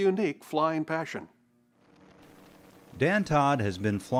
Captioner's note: gyroplane rotors roaring